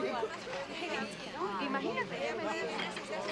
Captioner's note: indistinct chatter